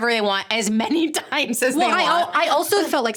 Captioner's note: laughing